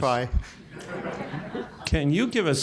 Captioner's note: laughter